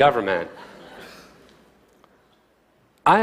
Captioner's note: laughter